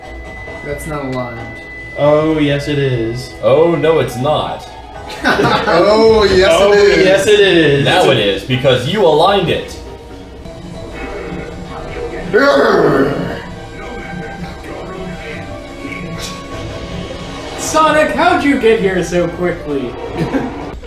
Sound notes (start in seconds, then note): 5.0 laughs